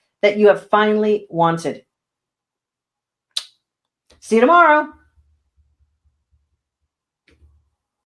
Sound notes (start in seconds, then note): 3.3 kissing